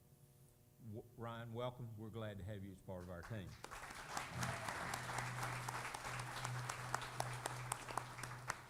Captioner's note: applause